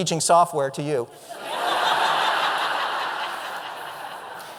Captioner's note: audience laughter